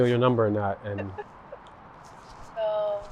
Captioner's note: Georgia laughs